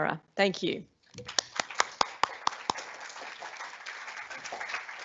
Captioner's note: applause